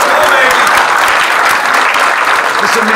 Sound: audience clapping

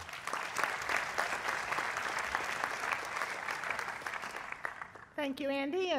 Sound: applause

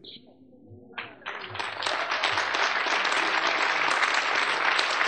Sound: audience applauding

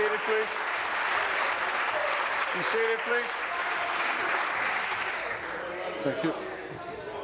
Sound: applause

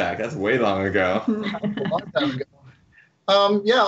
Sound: laughs

